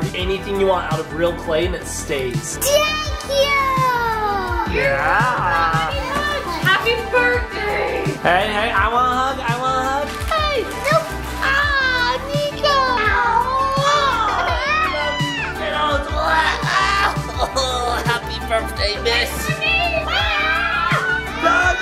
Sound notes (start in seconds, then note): 17.1 grunts; 20.0 screams